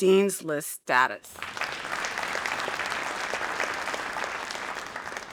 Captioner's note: audience applauding